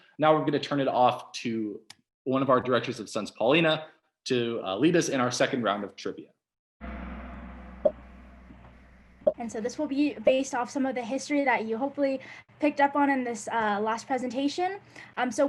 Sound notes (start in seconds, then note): 6.8 gong; 7.0 popping